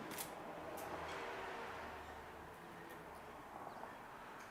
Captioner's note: camera shutters; car engines roaring